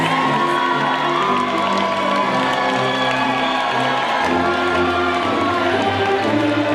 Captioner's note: band music drowns out ushers; audience cheering and applauding